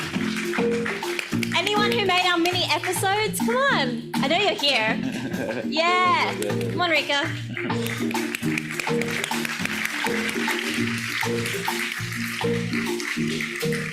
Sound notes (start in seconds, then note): 8.5 audience applauds